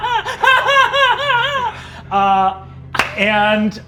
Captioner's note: giggling menacingly; claps hands